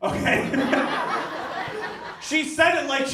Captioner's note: audience laughs